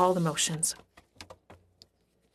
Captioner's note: speaking French